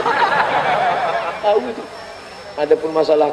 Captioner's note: hahah